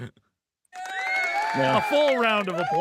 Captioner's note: audience cheering